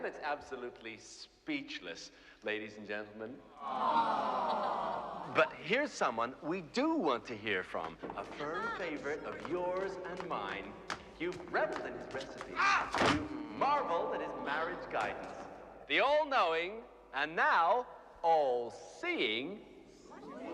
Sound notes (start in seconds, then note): 3.6 Все стонут; 13.1 Стонет